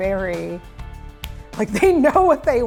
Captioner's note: fist smacks